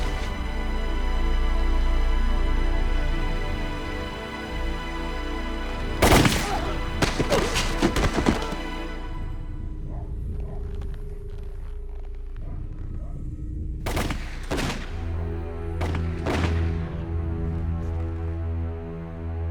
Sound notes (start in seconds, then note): 9.6 dog barking in the distance; 13.8 gunfire